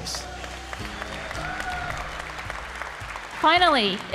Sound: applause

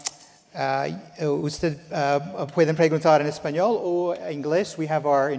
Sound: speaking in Spanish

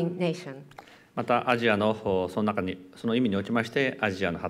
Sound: speaking japanese

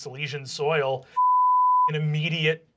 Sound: beeping

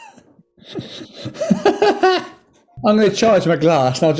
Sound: sniggering; laughing

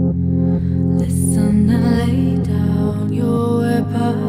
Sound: none

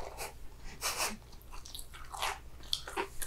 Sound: laughter

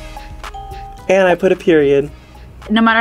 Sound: ding

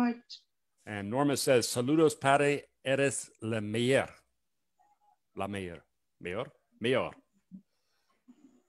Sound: speaking Spanish

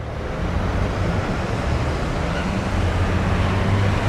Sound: traffic sounds

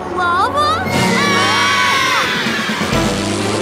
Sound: screaming

